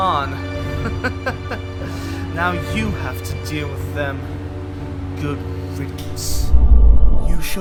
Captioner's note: chuckles